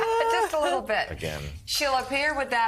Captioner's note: laughter